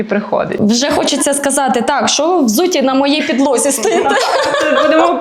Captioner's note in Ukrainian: сміх